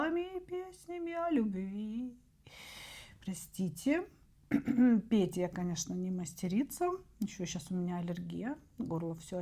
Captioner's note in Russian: откашливается